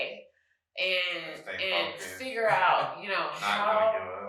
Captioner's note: chuckles